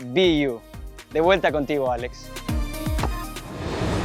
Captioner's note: speaking Spanish